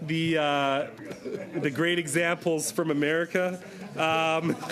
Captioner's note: laughter